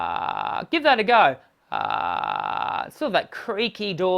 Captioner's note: creaky voice